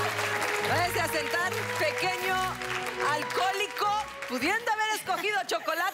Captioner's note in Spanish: Aplausos